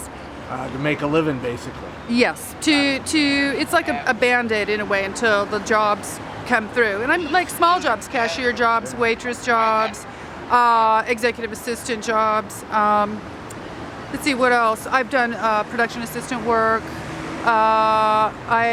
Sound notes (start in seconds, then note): 2.4 murmuring